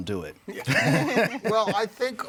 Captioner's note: all chuckling